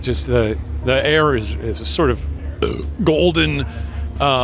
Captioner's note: belches